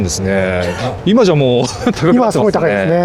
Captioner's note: laughs